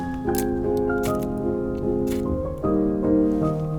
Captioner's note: spark spark